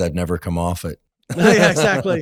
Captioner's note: chuckles